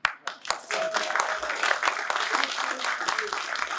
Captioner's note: applause